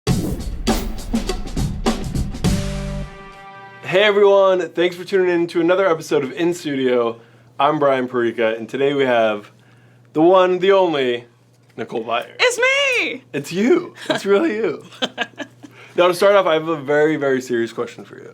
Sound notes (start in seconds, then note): 0.1 upbeat music; 14.8 laughs